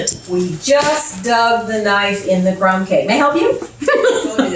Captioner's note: dramatically; emphatically; giggles again